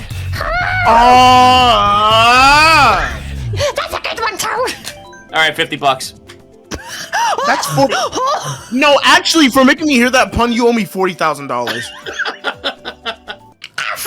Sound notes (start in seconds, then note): 3.6 now speaking as toad; 5.4 now not speaking as toad